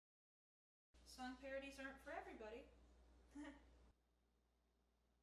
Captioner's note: giggles